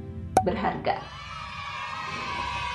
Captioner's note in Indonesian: kids cheering